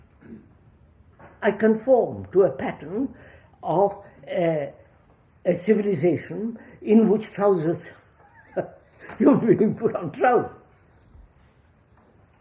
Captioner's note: laughs